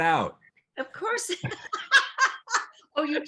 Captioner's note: laughs